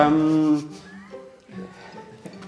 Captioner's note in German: Leises Lachen